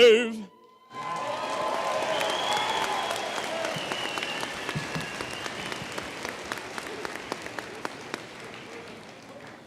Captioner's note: applause